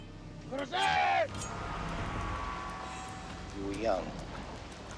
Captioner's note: speaking foreign language; shouting in foreign language